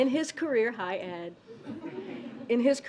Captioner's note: laughter